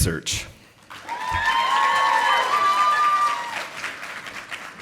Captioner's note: audience applauding